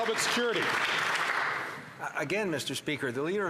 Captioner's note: applause